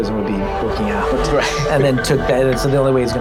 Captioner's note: laughs